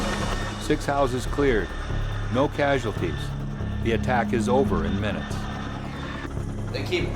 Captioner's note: voiceover